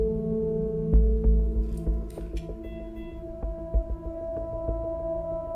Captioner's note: sound of slow heartbeat on heart rate monitor